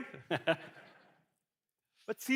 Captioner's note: laughs